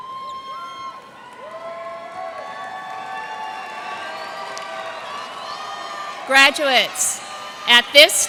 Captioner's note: cheers and applause